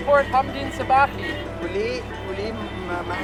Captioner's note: speaking Arabic